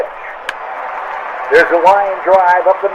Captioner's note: bat cracks